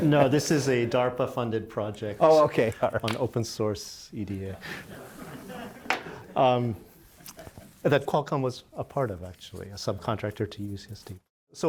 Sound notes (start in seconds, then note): 4.6 laughter